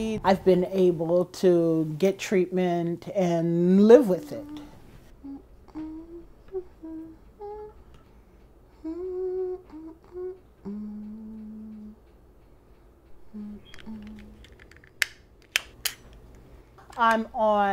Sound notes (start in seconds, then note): 5.1 humming; 13.6 medical apparatus clicking